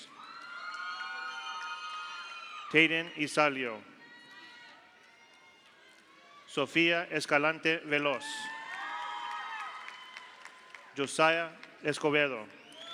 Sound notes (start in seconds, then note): 0.1 audience cheers; 0.1 audience applauds; 4.2 audience applauds; 4.2 audience cheers; 8.2 audience cheers; 8.5 audience applauds